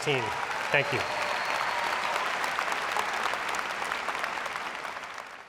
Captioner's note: applause